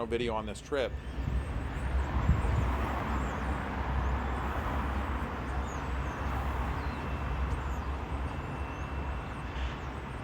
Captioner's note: wind howling